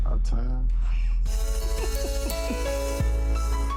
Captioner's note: Renni chuckling; uplifting music